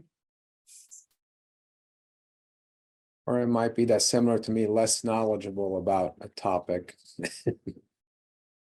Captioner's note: laughing